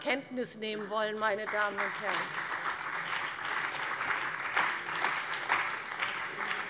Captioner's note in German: Beifall bei der CDU und dem BÜNDNIS 90/DIE GRÜNEN